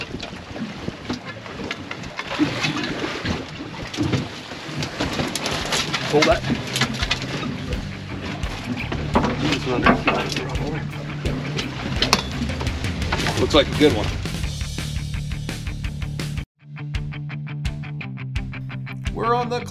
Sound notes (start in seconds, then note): 0.1 clattering; 6.5 fish thrashing